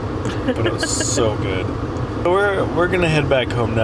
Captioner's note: laughs